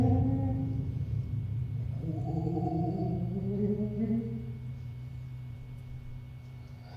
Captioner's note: thunder and ghost sounds